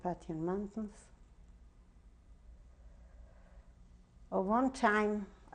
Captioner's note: pauses for 3 seconds